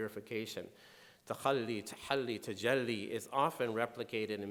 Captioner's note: speaking in foreign language